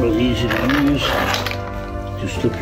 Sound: scraping sound

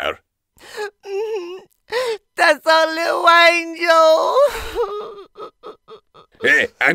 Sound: sobs

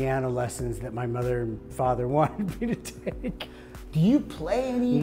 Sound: laughs

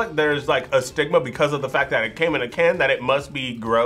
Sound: none

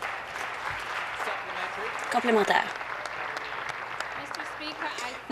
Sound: voice trailing; applause

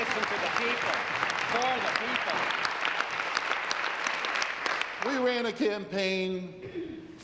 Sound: applause

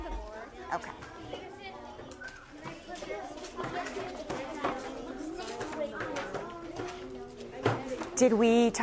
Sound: student talking among themselves

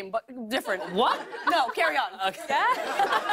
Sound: laughter

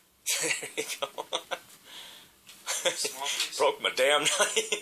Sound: laughing

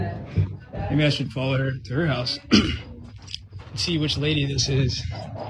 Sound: cough

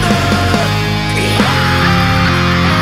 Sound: screaming

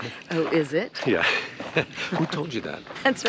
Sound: laughing amusingly

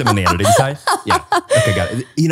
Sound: laughing

